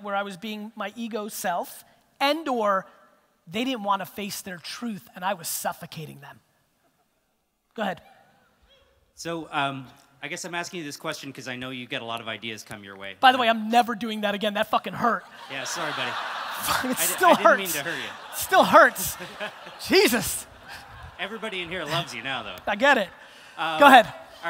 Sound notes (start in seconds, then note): 16.2 audience laughter